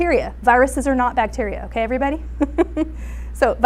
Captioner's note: laughs